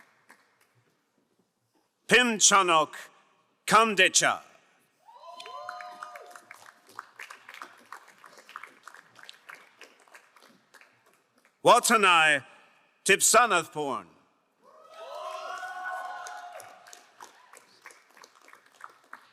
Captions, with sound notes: Hinchanuk Kamdecha. (crowd cheering and applauding) Watanai Tipsanatporn. (crowd cheering and applauding)